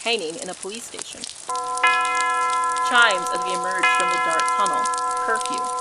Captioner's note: chimes; increased rain and splashing through puddles